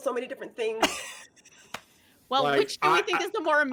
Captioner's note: laughing